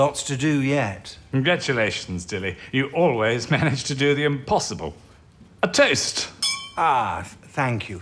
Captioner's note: glasses clink